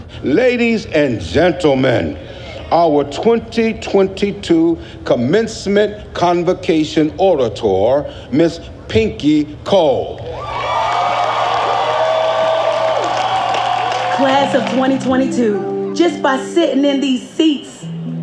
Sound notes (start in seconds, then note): 10.3 audience cheers; 10.4 audience applauds